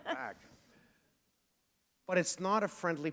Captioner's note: chuckle